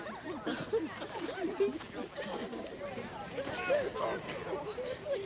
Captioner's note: students chattering excitedly